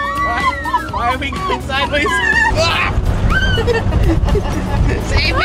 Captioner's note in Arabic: صراخ